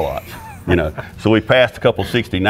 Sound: laughing

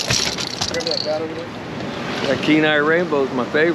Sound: fish thrashing; tackle rattling

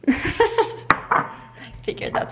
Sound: laughing

